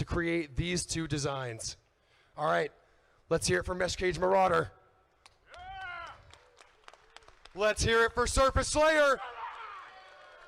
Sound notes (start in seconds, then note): 5.2 crowd clapping; 9.1 screams